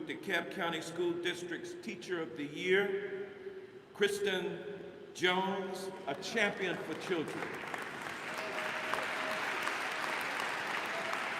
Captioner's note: applause